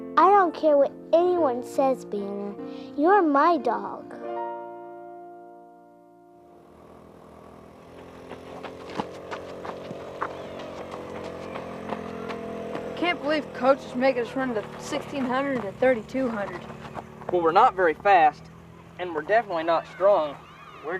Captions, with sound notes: - I don't care what anyone says, Banner, you're my dog. (cart engine humming) (birds chirping) - I can't believe coach is making us run the 1600 and 3200. - Well, we're not very fast. And we're definitely not strong.